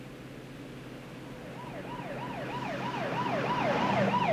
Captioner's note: police sirens